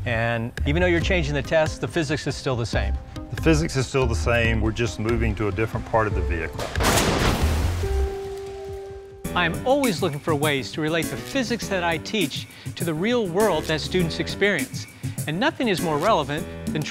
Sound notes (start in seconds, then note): 6.6 car crashing